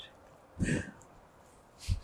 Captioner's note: gasping